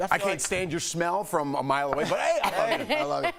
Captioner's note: laughter